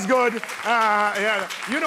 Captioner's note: applause